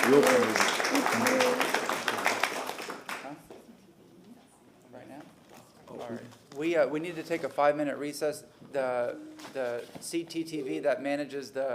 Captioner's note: applause